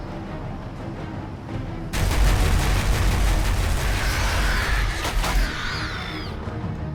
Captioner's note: dramatic music; turret firing